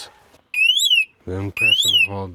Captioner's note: operator alarming